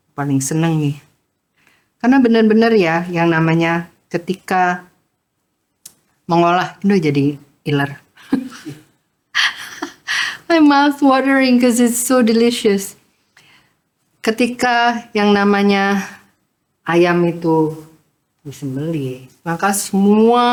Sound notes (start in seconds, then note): 9.4 laughs